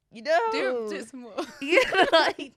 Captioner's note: both laughing